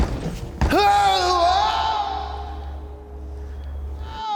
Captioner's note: screams